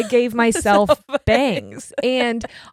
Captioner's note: laughs